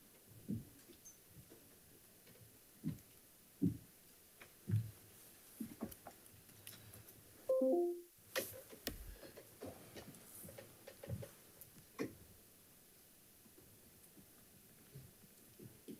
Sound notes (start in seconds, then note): 7.5 computer notification chimes